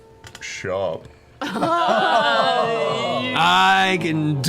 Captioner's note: groaning